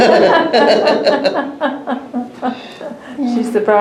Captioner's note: laughter